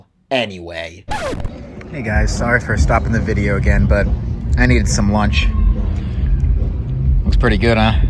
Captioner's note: record scratch